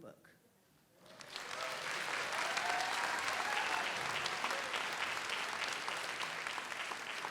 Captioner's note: audience applauds; audience cheers